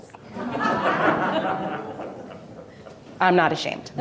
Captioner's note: audience laughing